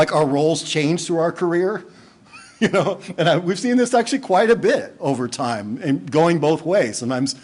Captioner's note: laughing